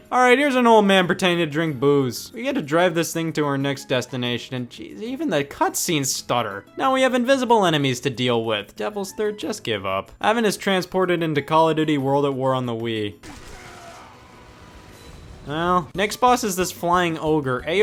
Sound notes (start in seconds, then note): 13.2 gun fires